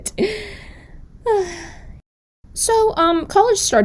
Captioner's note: sigh